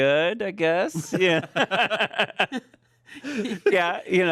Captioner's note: everyone laughs